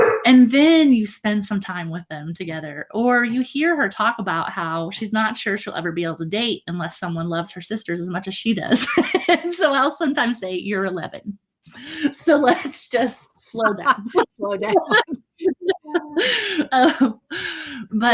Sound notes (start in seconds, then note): 8.7 laughing; 13.4 laughing